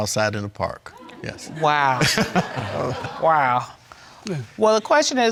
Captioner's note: chuckling